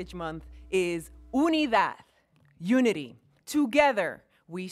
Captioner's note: speaking in foreign language